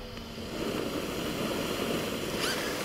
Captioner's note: hissing